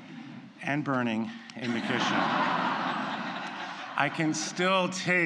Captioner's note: laughter